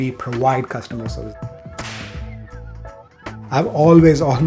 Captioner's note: hand clap